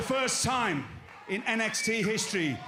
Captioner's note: crowd cheering